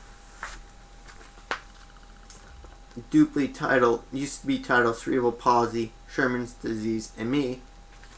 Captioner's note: papers moving; papers moving